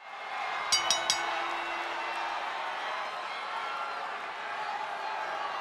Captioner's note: crowd cheering, bell dinging